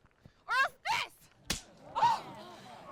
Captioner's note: hand slaps; Cathryn gasps